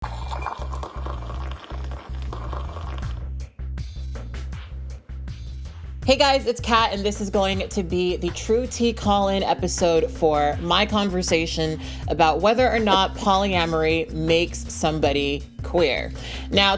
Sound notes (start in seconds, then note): 0.0 liquid pouring; 0.0 chill music